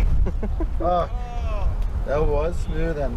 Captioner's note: laughing and cheering